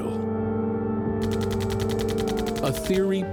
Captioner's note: gun fires